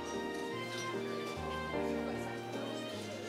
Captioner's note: soft chatter